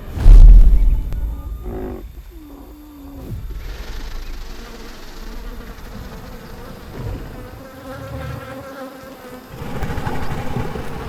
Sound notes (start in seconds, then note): 0.0 ground thuds; 1.1 dinosaur grunts lowly; 3.3 chittering; 5.4 insects buzzing; 9.4 dinosaur growls softly